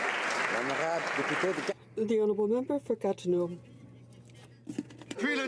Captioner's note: applause